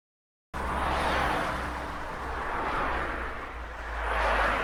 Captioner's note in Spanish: Sonido de autos en carretera circulando a alta velocidad